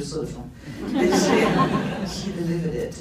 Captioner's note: laughs